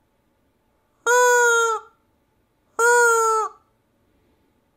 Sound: toy squeaking

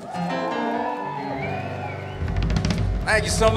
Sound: audience cheer

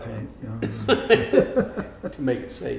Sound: laughing

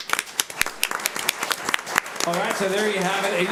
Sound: audience applauds

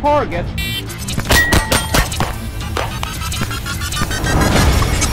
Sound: pistol firing; dramatic music continues

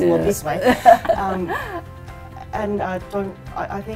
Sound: laughter

